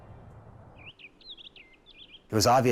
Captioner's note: birds chirping